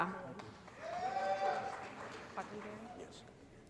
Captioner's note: applause & Cheering